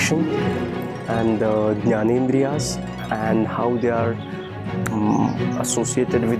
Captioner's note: foreign language